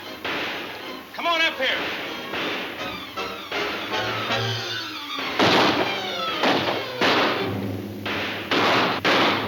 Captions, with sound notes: Come on up here. (guns firing) (thrilling music)